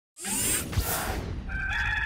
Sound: machine noise; air whooshing; rooster crows

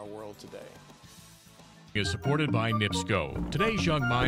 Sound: voiceover

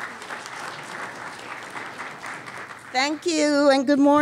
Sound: applause

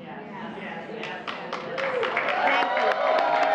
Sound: applause

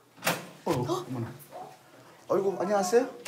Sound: the door opens

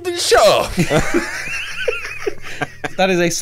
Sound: laughter

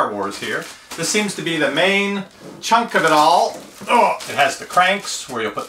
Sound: groans

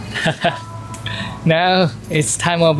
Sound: chuckles

